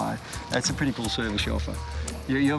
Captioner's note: aircraft engine humming